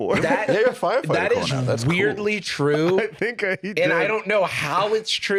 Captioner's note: laughing